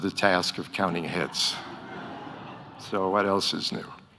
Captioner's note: audience laughing